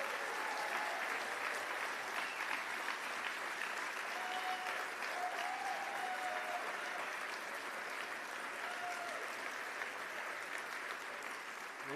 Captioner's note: cheers and applause